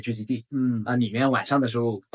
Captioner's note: nonverbal grunt as interjection